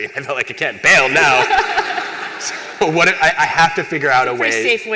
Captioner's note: laughter